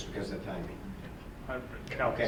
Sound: none

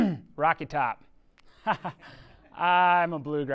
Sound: chuckles

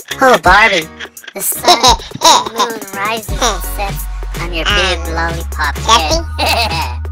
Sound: laughs

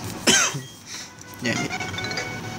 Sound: cough; sniff

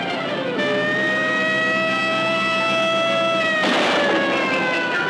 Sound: siren wailing; gunshots firing

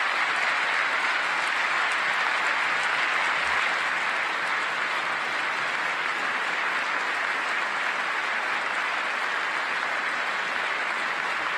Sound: applause

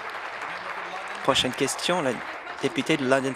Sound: applause

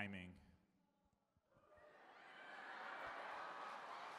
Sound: laughter

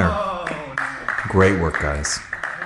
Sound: spectator applauds

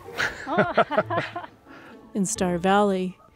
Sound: laughing

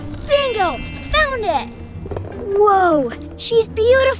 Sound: bells chime

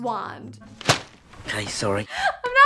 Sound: paper rustles

